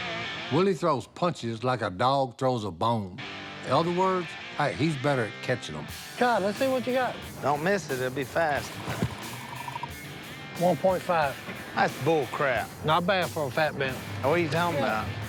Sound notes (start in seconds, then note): 8.8 radar gun beeping